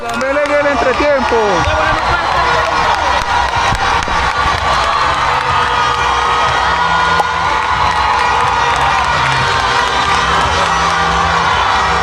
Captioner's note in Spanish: ovación